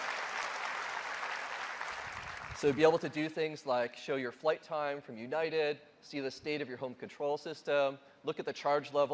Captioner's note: applause